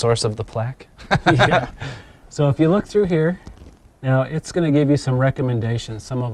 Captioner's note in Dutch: lacht